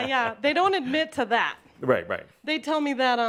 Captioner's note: chuckles